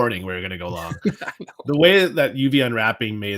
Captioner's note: laughs